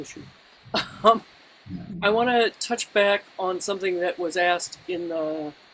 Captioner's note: laughs